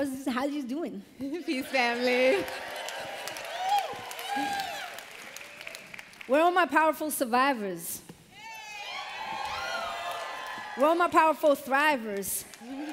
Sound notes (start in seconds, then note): 3.4 applause; 8.4 cheers